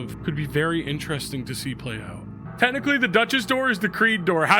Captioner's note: none